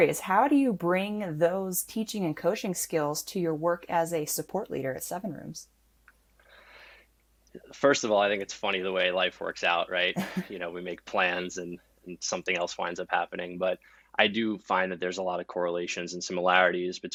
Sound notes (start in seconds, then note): 10.1 chuckles